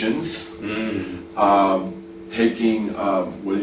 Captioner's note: interviewer nods and hums in agreement